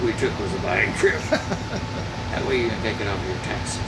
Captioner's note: laughing